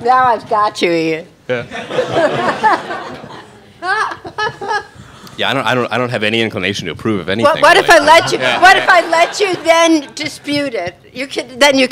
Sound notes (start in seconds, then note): 1.6 all laughing